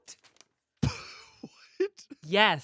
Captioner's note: laughs